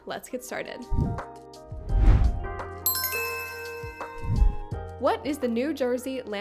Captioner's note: chimes ring; gentle music